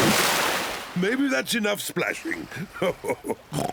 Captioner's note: chuckles